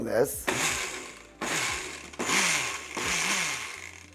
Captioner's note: blender buzzing